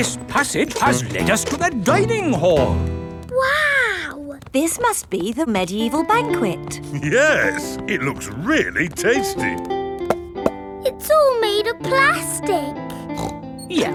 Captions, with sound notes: This passage has lead us to the dining hall. Wow! This must be the medieval banquet. Yes! It looks really tasty! (HOLLOW TAPS) It's all made out of plastic! (SNORTS)